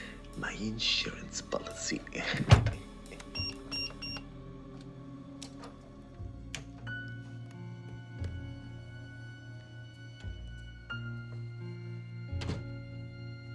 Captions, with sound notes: My insurance policy. (chuckles) (buttons bleep)